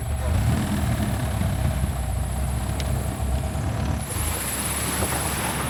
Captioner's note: engine revving